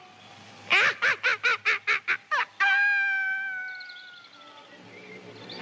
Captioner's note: evil Laughter